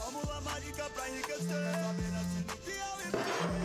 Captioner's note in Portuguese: celular vibrando